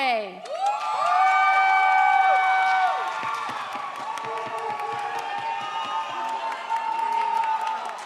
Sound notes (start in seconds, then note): 0.4 audience applauds